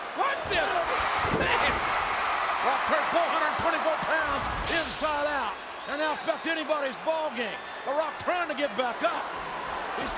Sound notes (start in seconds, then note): 1.1 spectators cheering